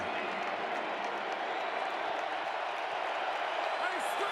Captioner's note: crowd cheering